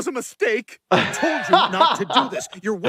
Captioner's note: laughs